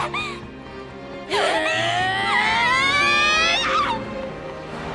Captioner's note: gasp